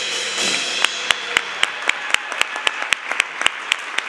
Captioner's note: applause